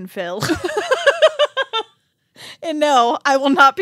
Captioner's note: laughing